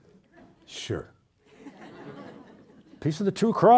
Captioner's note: audience laughing